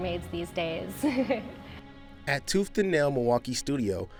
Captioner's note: laughs